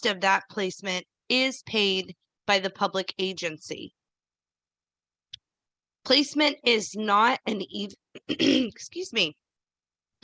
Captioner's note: clears throat